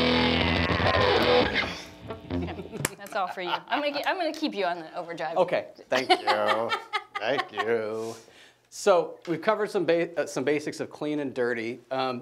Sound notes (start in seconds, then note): 2.3 laughing; 6.0 laughing